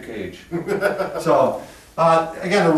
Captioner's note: laughing